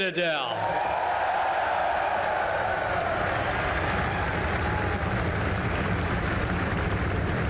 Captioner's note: applause